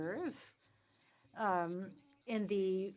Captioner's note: speaking French